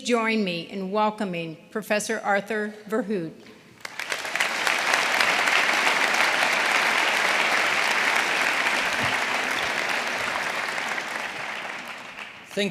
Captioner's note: applause